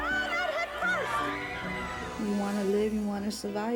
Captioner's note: people yelling; people screaming